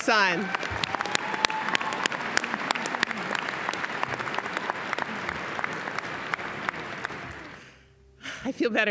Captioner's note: applause